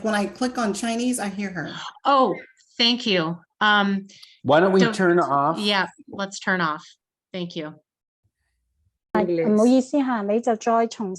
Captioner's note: Cantonese